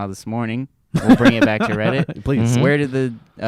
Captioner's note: laughs